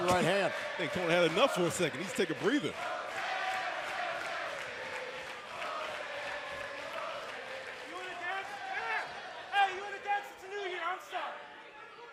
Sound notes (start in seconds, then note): 9.4 fans chanting